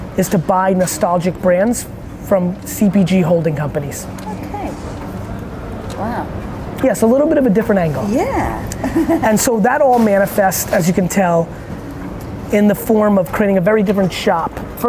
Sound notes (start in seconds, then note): 8.4 laughs